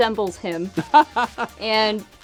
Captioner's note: laughter